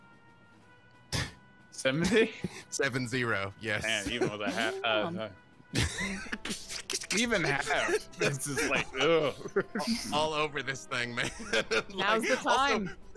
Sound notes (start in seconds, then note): 5.0 imitating lightning zaps